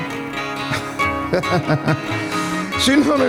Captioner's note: laughing